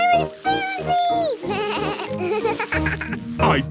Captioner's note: bleating, laughing